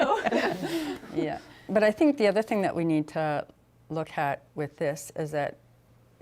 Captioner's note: laughter